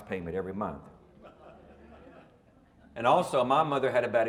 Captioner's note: audience laughing